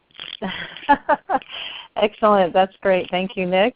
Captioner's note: laugh